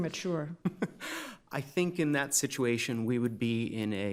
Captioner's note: chuckles